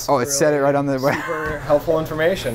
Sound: laughs

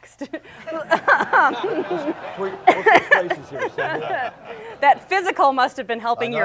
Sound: laughs

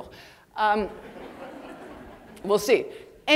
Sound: audience laughing

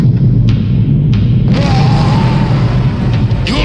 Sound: roaring

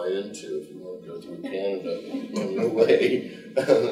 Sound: chuckling; group laughing

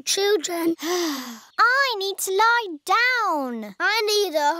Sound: sighs

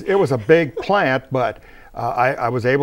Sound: laughing

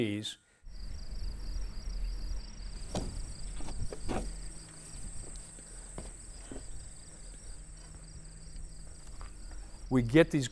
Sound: chirping

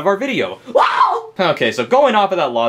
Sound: Luigi screams

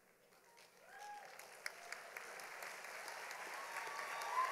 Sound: audience applauding

